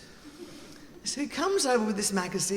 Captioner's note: audience laughing